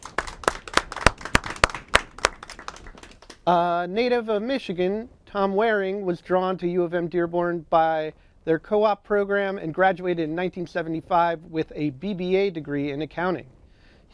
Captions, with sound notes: [ Applause ] A native of Michigan, Tom Waring was drawn to U of M-Dearborn by their co-op program and graduated in 1975 with a BBA degree in Accounting.